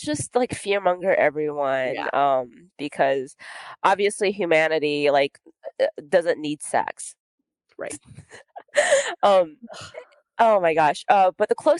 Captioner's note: laughs